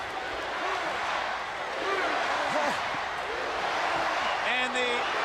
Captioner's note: crowd chatter